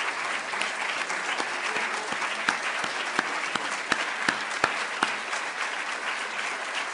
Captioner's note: applause